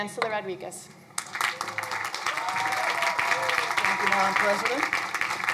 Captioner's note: crowd applauding